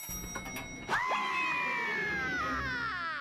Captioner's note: screaming